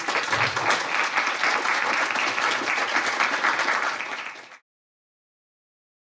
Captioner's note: applause